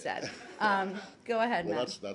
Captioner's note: laughter